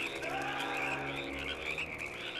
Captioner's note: screaming